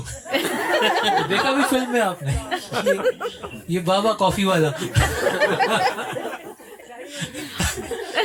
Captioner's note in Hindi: हंसी; हंसी